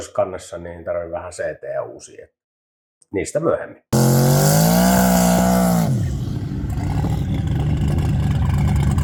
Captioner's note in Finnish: Moottorin ääntä